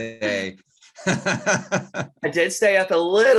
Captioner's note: laughs